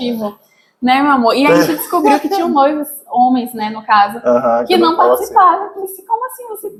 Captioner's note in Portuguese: risadas